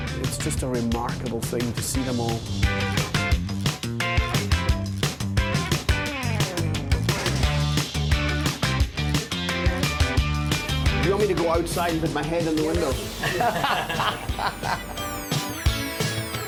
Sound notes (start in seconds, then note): 3.1 upbeat funky music; 13.0 all laughing; 15.6 upbeat funky music